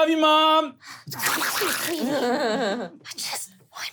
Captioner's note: wet skittering; laughing